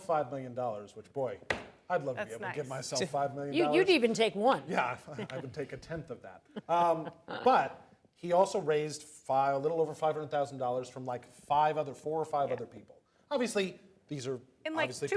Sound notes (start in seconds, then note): 3.0 laughs